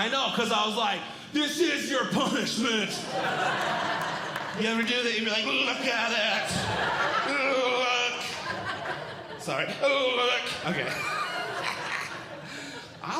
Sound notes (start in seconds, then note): 3.3 audience Laughing; 6.8 audience Laughing; 8.8 audience Laughing; 11.3 audience Laughing